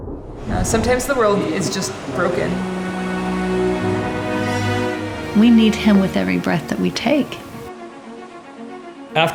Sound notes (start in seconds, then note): 0.0 thunder Claps